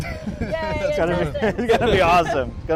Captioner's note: laughs